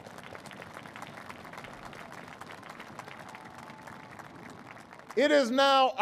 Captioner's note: applause